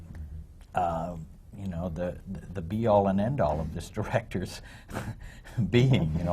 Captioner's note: laughs